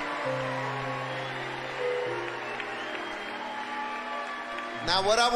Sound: audience cheering loudly

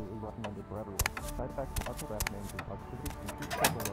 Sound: footsteps; door opens; footsteps

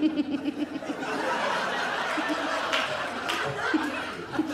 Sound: giggles

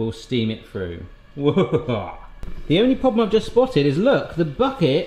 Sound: laughing

